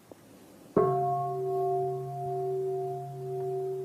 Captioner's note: bell